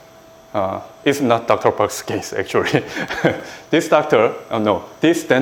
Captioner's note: laughs